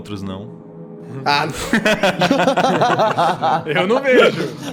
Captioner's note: laughs